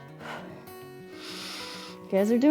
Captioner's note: exhales and inhales